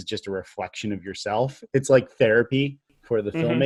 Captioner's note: laughs